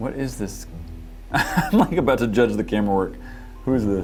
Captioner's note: nervous laughter